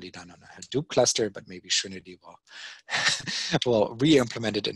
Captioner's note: chuckling